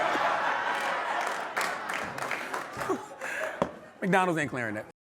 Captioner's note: laughter